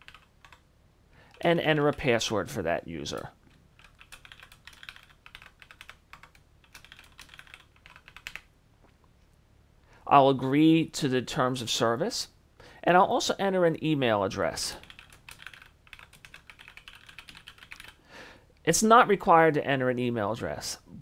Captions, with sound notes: and enter a password for that user. *keyboard clicking* I will agree to the terms of service and I'll also enter an email address. *keyboard clicking* It's not required to enter an email address.